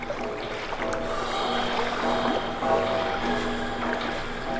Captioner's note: breathing